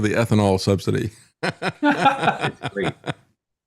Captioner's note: laughing